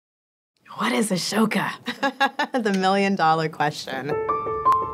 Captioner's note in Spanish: risas